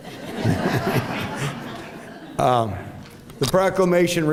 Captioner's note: laughter